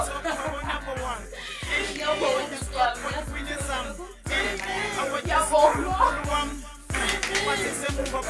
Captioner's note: excited laugh